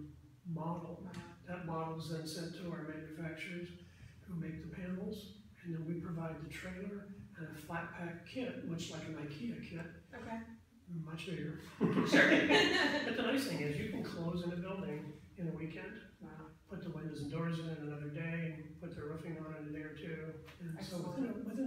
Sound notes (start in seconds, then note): 11.6 both laugh